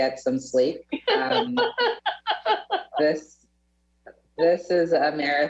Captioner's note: panelists laughing